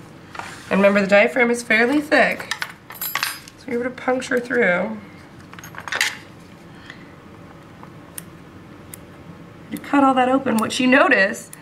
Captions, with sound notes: and remember, the diaphragm is fairly thick, and so we were to puncture through... [tool clanking noise] [scissors-clipping] you cut all that open, what you notice,